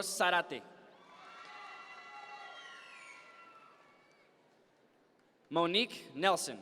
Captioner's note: audience members cheer